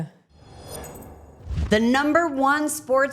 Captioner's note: air whooshing